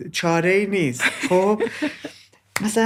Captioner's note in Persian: خنده